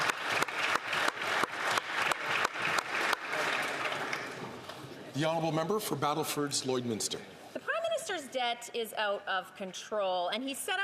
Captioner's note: applause